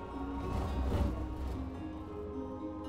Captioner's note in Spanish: estruendo suave